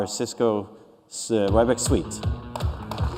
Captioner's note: applause